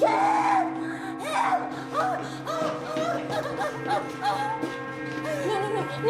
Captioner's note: breathing heavily and sobbing